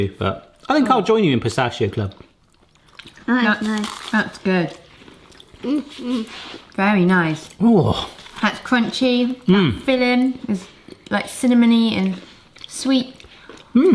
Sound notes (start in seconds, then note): 5.9 noms; 8.0 grunts